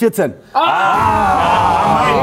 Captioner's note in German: Bedauernde Laute